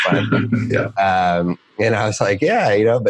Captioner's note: laughs